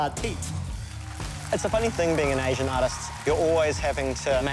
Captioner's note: applause